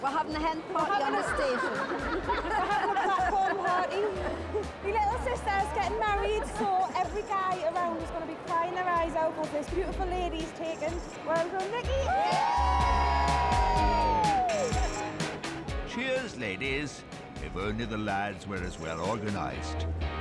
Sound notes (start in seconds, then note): 11.9 all cheering